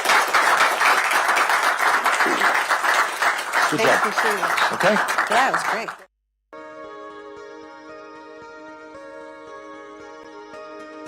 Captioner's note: applause